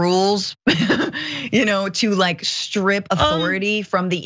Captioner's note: laugh